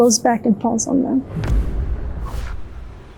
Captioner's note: wind whooshing